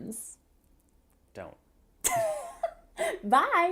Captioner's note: laughs